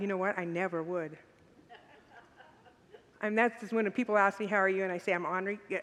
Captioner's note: congregants laugh